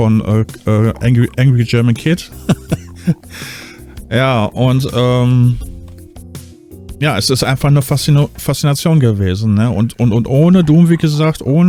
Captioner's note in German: gelächter